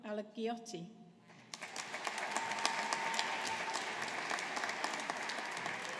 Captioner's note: audience applauding